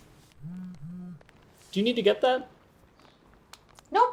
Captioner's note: phone vibrating